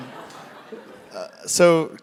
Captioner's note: laugh